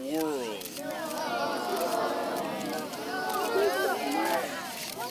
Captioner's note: children chattering